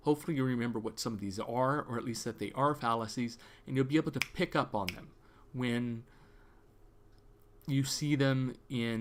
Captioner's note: snap snap